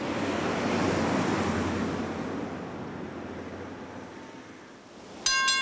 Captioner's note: traffic whooshing; bell clanging